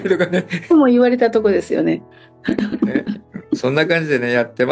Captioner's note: laughs